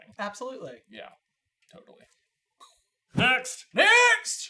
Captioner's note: poooooof